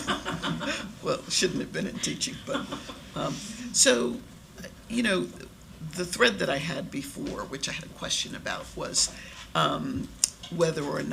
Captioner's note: laughter